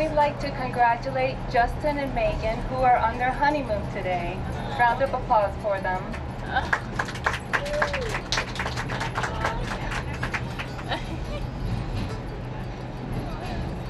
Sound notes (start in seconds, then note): 6.6 applause; 11.3 laughing